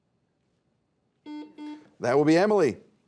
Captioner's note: buzzer beeps